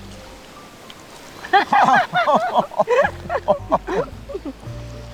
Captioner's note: both laughing